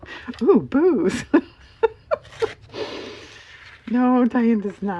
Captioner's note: laughs